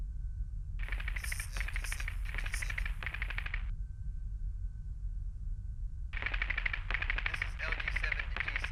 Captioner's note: Static